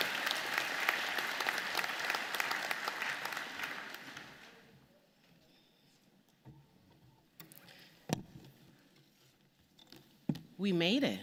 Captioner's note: applause